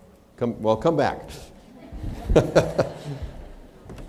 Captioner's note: laughter